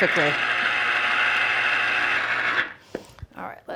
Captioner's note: juicer whirring